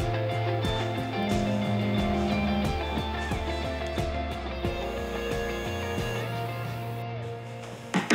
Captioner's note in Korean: 휴대전화 진동음